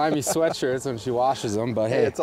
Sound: laughs

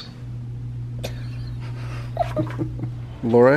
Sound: laughing

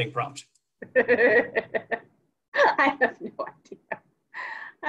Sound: laughs

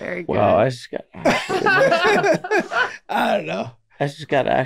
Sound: everyone laughing

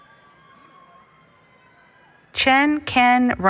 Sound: cheering

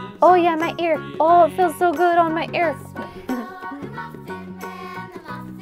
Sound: giggles

